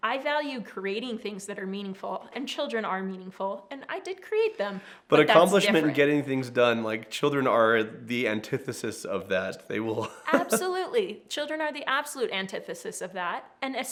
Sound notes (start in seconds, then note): 9.9 laughs